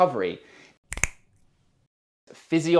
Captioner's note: fingers clicking